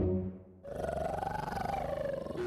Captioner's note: growling